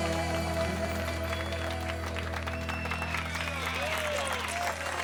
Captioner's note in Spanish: aplausos; silbidos